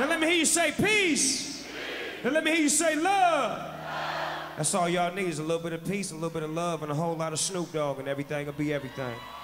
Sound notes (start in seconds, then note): 0.0 crowd; 1.4 crowd; 3.7 crowd